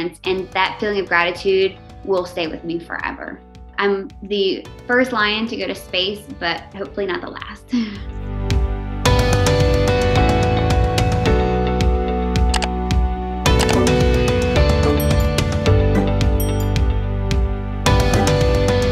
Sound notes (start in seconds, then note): 7.6 upbeat pop music; 7.7 Hayley laughs